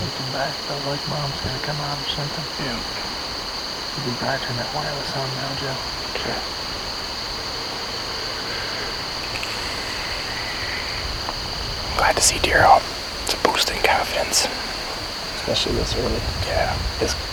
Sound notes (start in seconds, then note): 7.6 insects